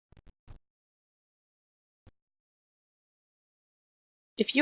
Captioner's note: silence